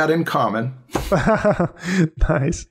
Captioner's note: laughter